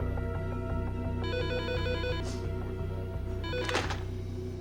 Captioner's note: phone rings